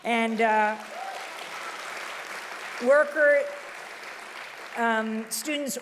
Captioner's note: audience applauding loudly